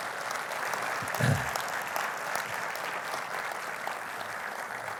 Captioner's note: audience applauding